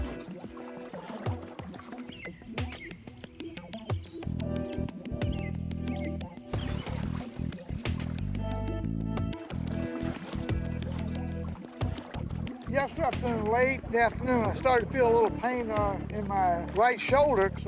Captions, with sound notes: (calming music) (birds chirping) Yesterday afternoon, late in the afternoon, I started to feel a little pain in my right shoulder, so I